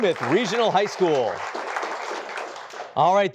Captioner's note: applause